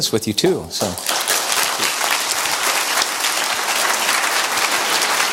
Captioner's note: audience applause